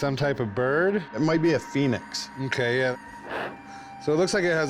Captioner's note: blows